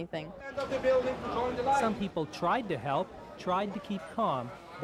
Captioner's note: shouting directions